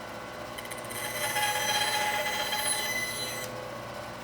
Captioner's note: tool squealing